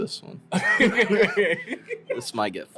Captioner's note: laughter